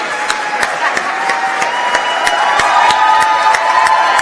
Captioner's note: cheering